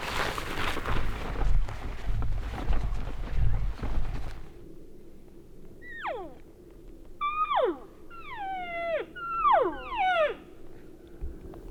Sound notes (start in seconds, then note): 6.0 hunters cow calling